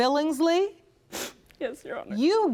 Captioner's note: sobbing